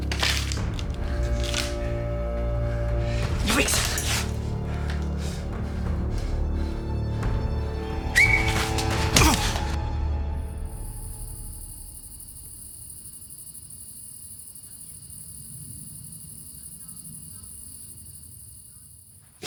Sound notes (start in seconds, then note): 0.0 glass crunching; 8.0 Brown whistling; 8.1 officer groaning; 8.2 gun thudding; 10.4 crickets chirping